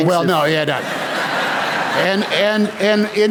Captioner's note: laughter